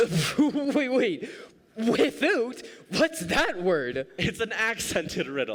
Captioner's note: laughing